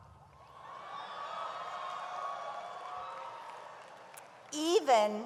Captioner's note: audience laughs and cheers